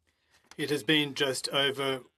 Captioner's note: speaking French